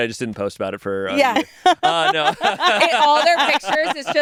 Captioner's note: all laugh